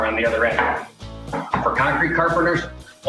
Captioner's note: hammering